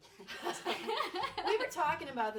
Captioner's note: all laughing